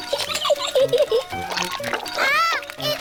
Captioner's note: giggles